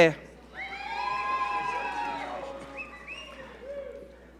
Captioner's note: audience cheering